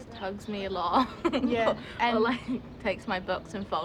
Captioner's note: laughs